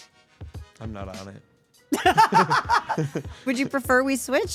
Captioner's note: laughing